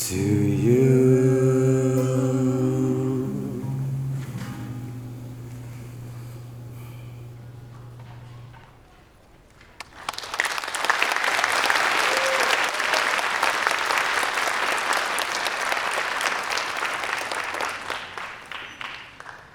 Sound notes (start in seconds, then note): 9.5 applause